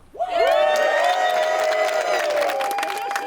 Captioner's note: crowd cheers